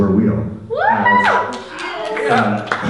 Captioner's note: cheers from audience members